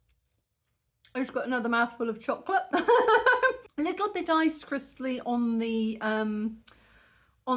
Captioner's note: laughing